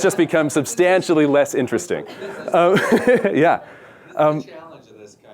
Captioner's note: laughs